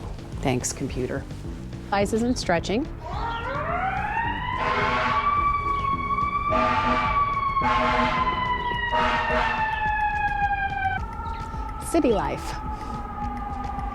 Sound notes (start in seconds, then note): 2.9 ambulance siren screams; 4.6 more sirens and emergency vehicle honking; 6.6 honk, honk; 7.7 honk, honk, honk; 8.9 honk, honk; 10.0 sirens begin to fade